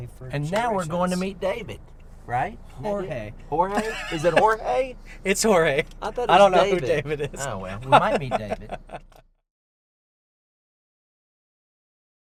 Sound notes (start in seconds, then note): 3.7 laughing